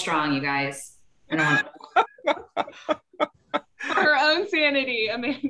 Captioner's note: laughs